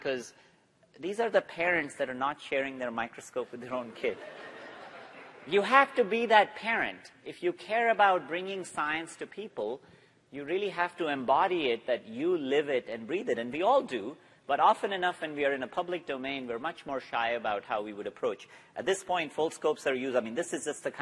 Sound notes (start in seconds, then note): 4.1 laughter